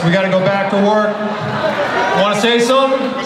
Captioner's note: audience laughter